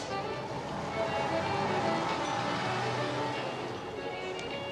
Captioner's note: bus departs